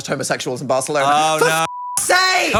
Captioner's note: beep